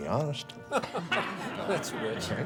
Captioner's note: faculty laughs